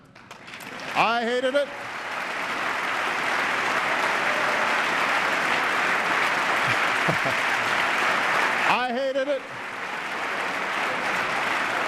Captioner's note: applause